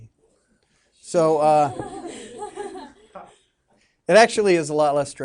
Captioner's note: students laughing